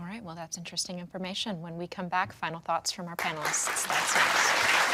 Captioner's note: audience applauding